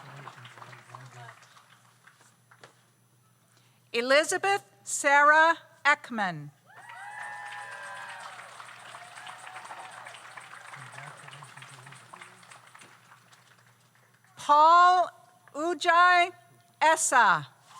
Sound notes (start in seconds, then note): 6.7 audience cheers; 6.8 audience applauds